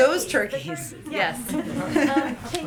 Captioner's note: laughter